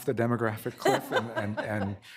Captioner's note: laughter